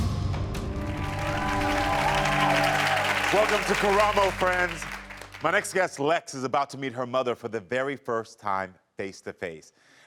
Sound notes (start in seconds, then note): 0.8 audience applauding; 0.8 audience cheering